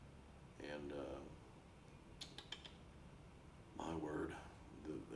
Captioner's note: clicks tongue